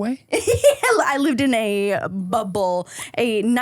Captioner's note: laughing